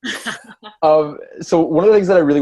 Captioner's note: laughs